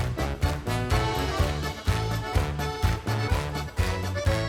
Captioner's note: energetic bright upbeat music continues; Dorek clapping